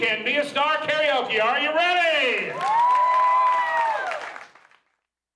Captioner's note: crowd wooo-hoos